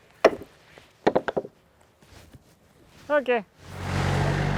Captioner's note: hammer thuds; object thunking; engine revving